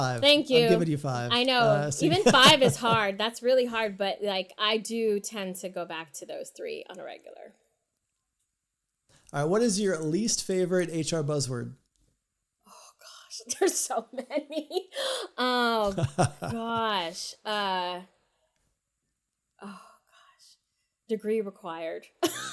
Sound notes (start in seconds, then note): 15.7 laughs; 22.2 laughs